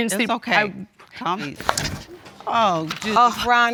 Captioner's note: gasps